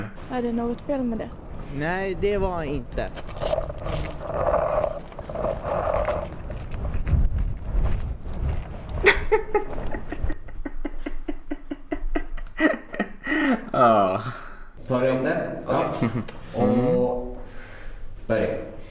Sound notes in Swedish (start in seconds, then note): 9.0 Små skrattar